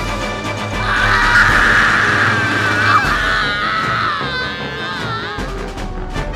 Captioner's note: More Shinji's screams but not the NETFLIX's ones